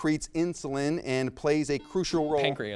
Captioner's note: buzzer beeps